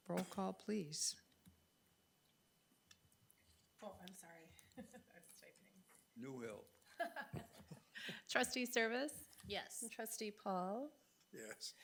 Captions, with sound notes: Roll call, please. Oh, I'm sorry, I was typing. (person laughing) Trustee Service. Yes. Trustee Paul. Yes.